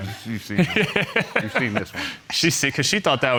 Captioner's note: laughing